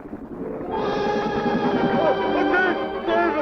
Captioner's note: bubbling